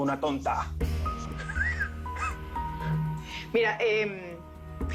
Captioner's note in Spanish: Risas